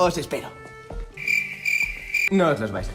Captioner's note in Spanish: ruido de grillos